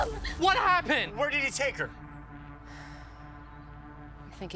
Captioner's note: Weaver sighs